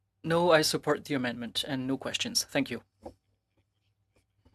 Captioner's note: speaking French